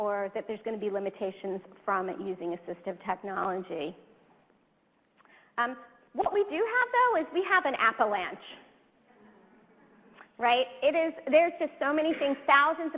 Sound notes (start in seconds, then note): 9.6 audience chuckles